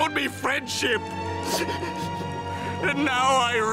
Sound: sniffling

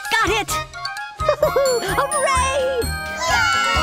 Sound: laughs

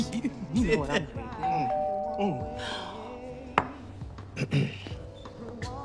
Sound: doorbell chiming

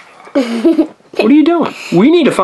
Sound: assistant giggles

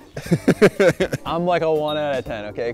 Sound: laughs

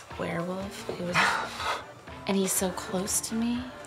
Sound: Donny gasps

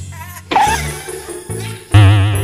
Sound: gasps

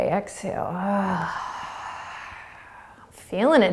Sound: exhaling

